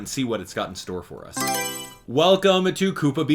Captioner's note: Mario Selection Sound